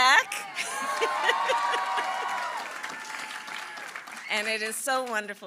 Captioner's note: applause